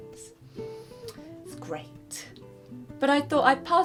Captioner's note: exhales in PTSD